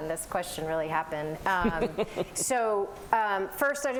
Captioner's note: laughter